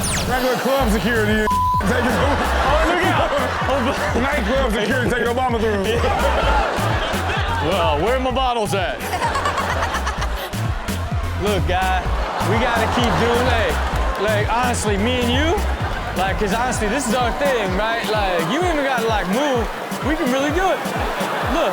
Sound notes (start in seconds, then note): 1.7 laughs; 2.9 crowd laughs; 6.1 crowd laughs; 9.0 Chanel laughs; 9.2 crowd laughs